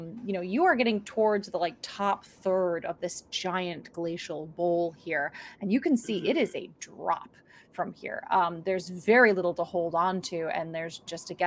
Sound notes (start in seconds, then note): none